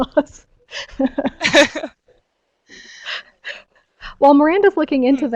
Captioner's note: laugh